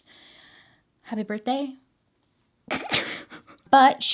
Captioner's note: giggles